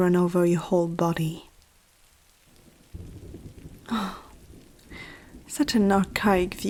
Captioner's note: sigh